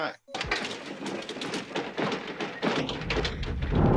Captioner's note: low rumbling